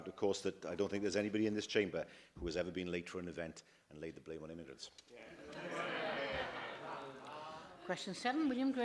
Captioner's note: laughter